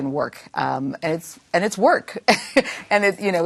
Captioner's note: laughs